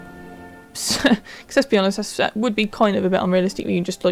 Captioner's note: laugh